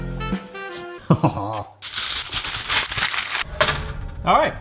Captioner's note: upbeat music; foil crackling